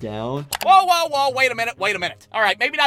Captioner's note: button clicking